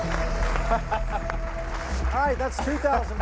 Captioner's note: laughing